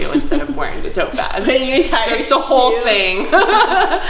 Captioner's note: laughing